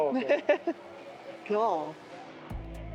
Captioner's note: laughter